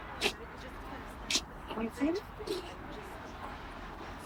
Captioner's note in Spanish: charla confusa